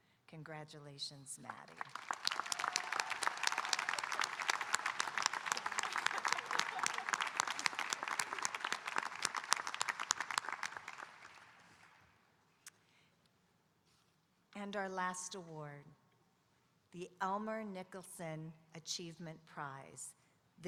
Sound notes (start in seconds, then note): 1.7 audience applauding and cheering; 5.4 laughing